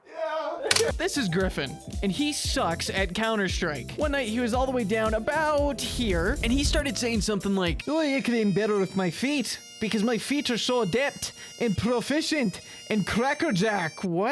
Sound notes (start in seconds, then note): 5.8 fire Burning; 7.8 in a poorly done scottish accent